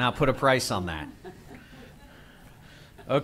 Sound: laughter

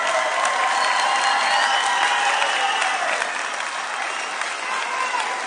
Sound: audience cheering

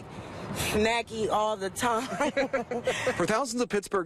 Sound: laughter

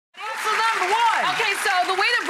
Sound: audience applauds

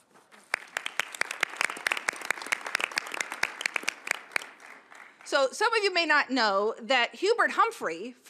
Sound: applause

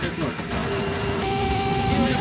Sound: angle Of Attack Warning Sound

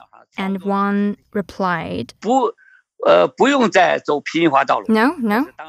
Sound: speaking Mandarin

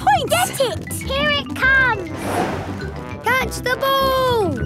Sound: whoosh

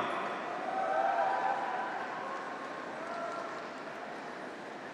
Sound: graduates cheer

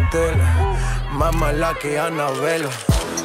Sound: fans shouting; cameras clicking; reggaeton song continues playing

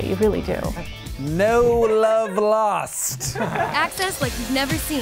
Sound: people laugh

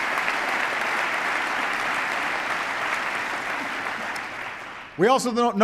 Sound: applause

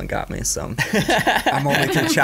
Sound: laughing

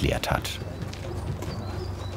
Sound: birdsong

